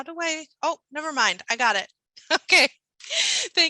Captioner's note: laughing